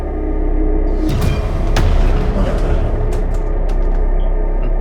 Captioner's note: fists hitting